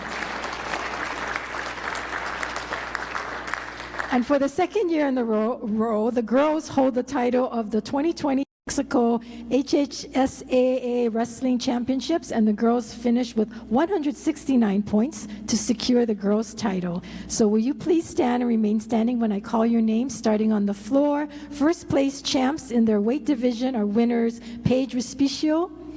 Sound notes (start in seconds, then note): 3.7 applause